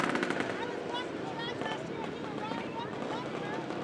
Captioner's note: people talking